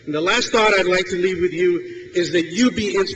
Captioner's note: none